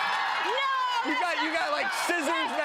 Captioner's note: audience cheers